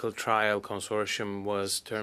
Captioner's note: speaking French